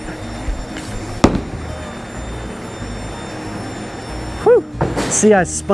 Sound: bowling ball thuds

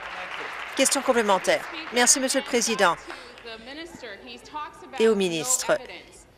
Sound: applause

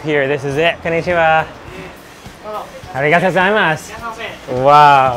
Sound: speaking in foreign language

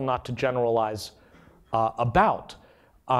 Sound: none

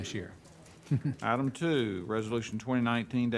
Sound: chuckles

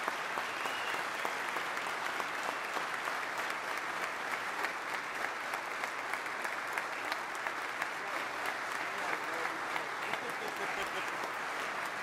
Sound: applause

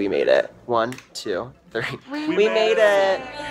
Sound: laughing

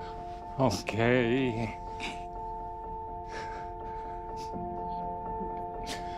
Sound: sobbing; cries; reflective music

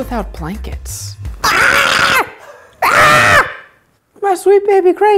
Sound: yells

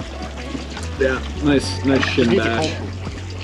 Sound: complaining in the background

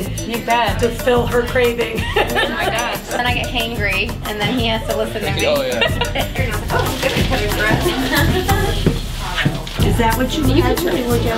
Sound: laughing

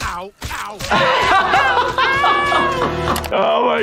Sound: laughing

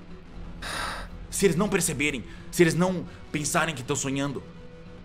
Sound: sigh

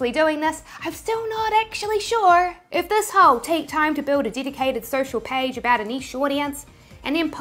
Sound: none

